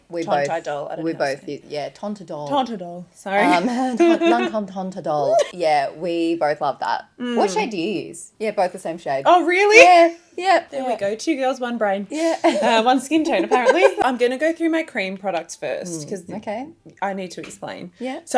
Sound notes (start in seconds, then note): 3.4 laughs; 13.5 laughs